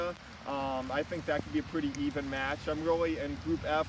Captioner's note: rain increases drastically